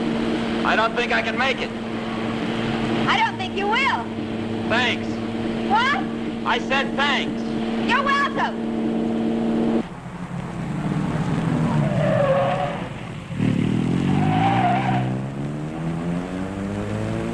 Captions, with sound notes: - I don't think I can make it. - I don't think you will. - Thanks. - What? - I said thanks! - You're welcome! (tires squealing) (engine roaring)